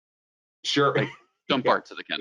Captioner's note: laughs